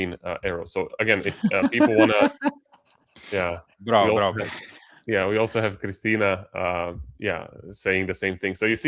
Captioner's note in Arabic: ضحك